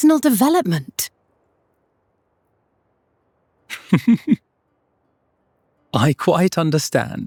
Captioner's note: laughter